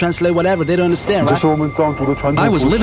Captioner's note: speaking in Chinese